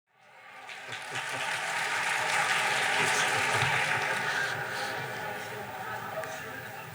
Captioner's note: applause